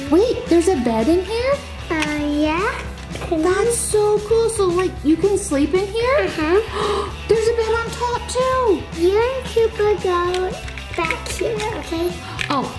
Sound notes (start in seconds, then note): 6.6 gasps